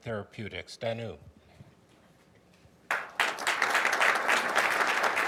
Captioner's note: audience applauding